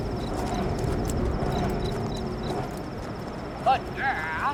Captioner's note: footsteps; metal wind turbine blades hum as they rotate